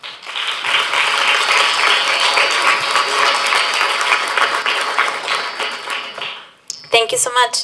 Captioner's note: applause